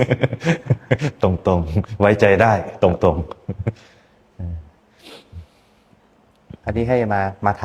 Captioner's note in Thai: เสียงหัวเราะ; เสียงสูดหายใจ